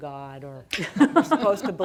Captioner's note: audience laughing